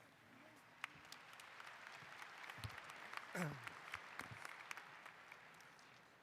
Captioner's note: applause